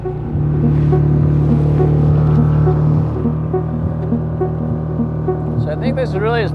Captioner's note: suspenseful music; engine buzzing